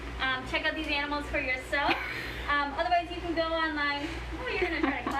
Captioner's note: laughs